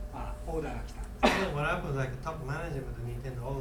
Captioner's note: coughing